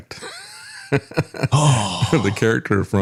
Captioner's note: laughs